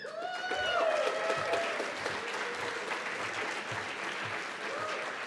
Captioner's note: cheers and applause